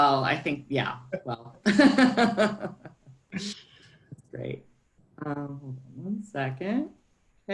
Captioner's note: laughs